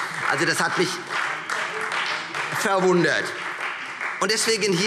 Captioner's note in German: Beifall Freie Demokraten